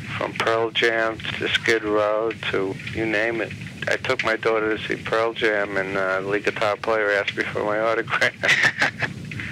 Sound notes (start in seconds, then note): 8.2 laughs